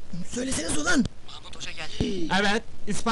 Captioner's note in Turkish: telsizden